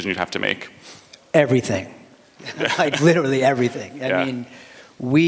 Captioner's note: laughter